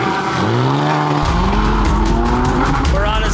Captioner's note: engine revving